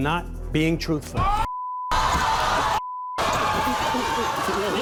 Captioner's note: crowd shouting